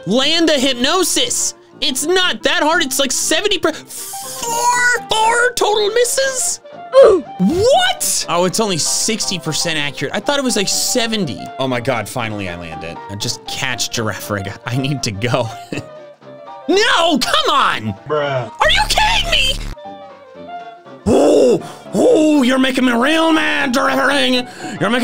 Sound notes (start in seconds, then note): 7.0 comedic grunting; 15.6 laughs; 17.6 meme Voice